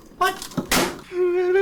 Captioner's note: hard Slam